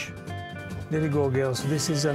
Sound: with Italian accent

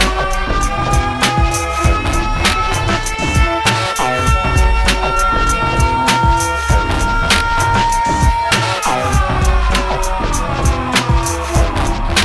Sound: sirens

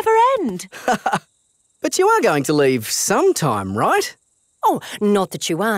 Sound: laughs

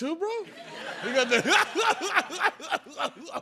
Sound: laughter

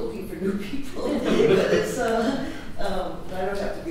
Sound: audience laughs

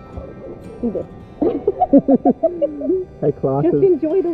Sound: laughter

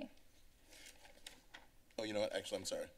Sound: paper Rustling

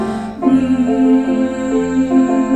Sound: humming, to end

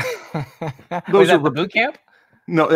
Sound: laughs

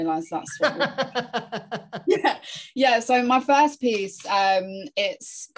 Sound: laughing

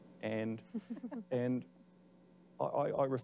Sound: laughing

